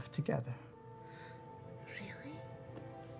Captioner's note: whispers